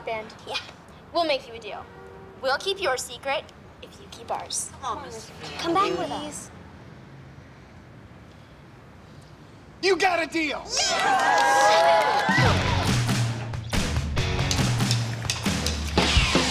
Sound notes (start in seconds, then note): 10.7 cheering